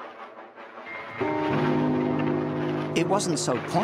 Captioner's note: train rumbling